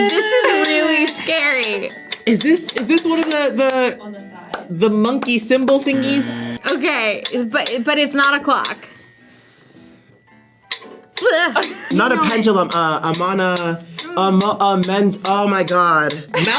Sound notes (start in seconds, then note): 5.8 buzzer; 12.2 metronome clicks